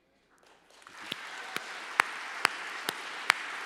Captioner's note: applause